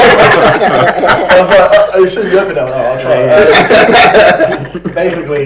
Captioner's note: laughs